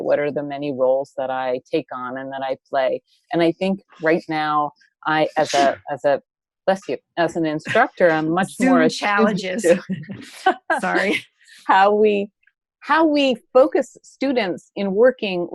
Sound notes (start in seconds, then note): 5.4 sneezes; 10.6 laughs